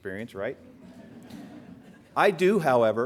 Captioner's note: laughter